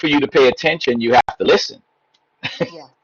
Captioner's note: giggling